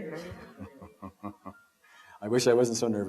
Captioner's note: chuckles